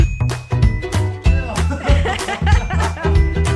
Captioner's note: laughter